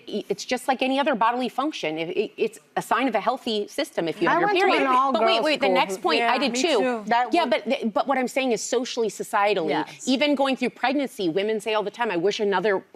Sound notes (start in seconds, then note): none